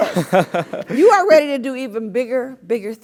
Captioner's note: laugh